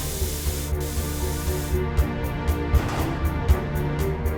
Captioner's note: door hisses; instrumental music